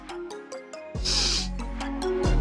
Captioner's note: sniff